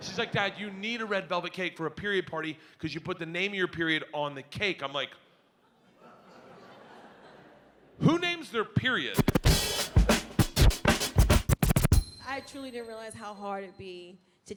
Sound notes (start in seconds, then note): 0.0 audience laughing; 6.1 audience laughs; 9.1 hiphop beats music